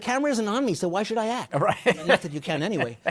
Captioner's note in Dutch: Laughing